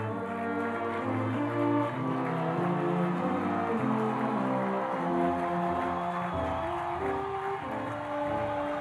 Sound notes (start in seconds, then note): 0.0 audience cheering